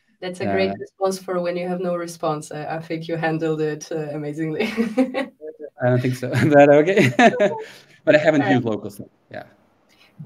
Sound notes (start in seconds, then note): 5.8 laughs